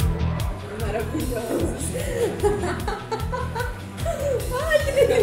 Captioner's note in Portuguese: risos